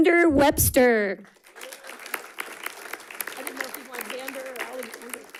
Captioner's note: audience clapping